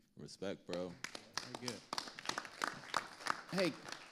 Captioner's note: audience applauding